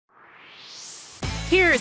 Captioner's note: swoosh